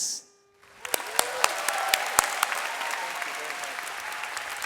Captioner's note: audience applauds